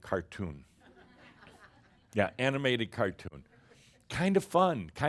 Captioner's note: some chuckles